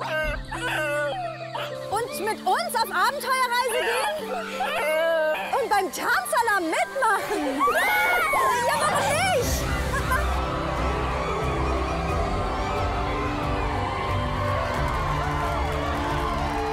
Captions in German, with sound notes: Mit uns auf Abenteuer-Reise gehen? Und beim Tanzalarm mitmachen? Warum nicht! *Sie jubeln.* *fröhliche Musik*